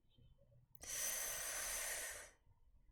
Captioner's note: sharp inhale